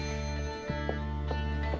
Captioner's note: elevator dinging